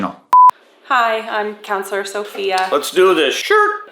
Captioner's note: screen beeping; can opening